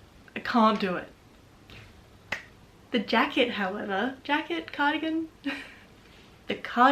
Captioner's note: soft clap